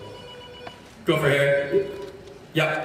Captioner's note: phone ringing